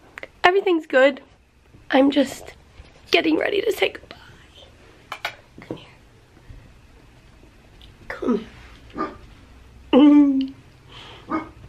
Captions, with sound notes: Everything's good. I'm just getting ready to say goodbye. Come here. Come here. [bark] [giggles]